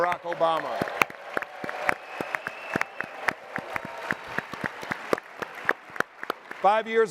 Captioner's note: applause and cheering